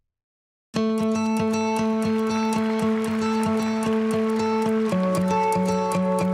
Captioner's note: lively music; audience applauding